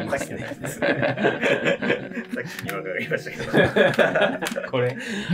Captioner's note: laughing